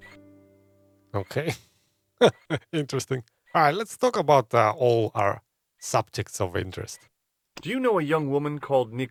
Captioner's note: laughs